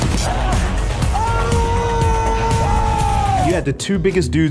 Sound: intense music; man screaming

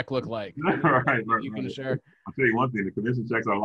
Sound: chuckles

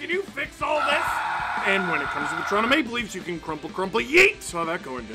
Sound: screaming

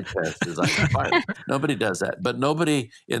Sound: all chuckles

